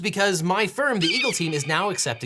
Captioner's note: eagle squawking